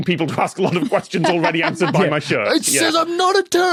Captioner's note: laughs